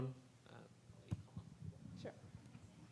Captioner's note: speaking faintly